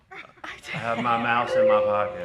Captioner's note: people laugh